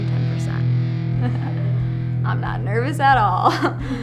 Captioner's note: laughs; laughs